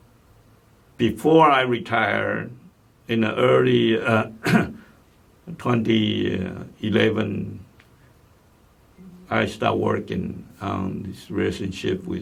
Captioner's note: clears throat